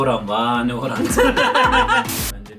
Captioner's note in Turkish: Gülüyorlar